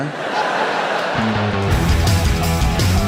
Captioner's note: audience laughing; upbeat music